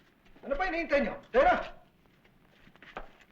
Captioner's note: non-english speech